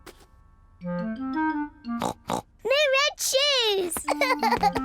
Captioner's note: oinks; laughs